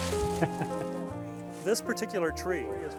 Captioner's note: laughing